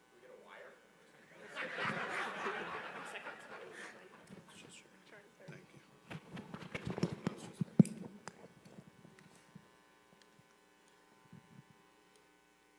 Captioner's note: laughter